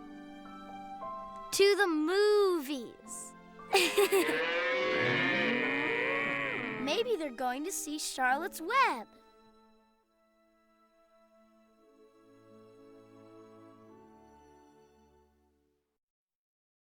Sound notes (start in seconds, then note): 3.7 laughing; 4.1 mooing